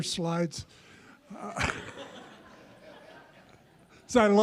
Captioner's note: audience laughs